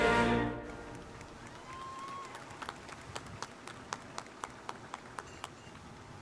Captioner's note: audience cheering and applauding